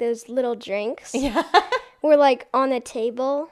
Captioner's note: laughs